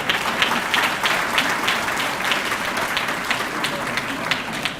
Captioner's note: audience clapping